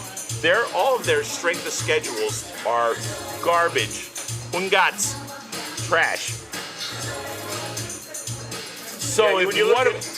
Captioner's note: speaks in foreign language